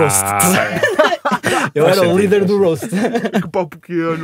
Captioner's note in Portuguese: risos